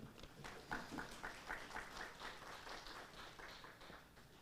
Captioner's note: audience applauds